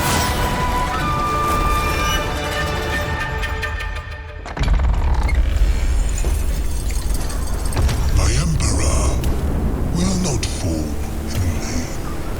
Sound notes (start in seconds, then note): 4.5 creaking; 8.1 distorted male voice